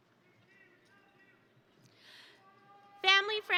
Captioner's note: attendees cheering